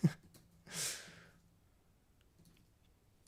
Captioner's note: laughs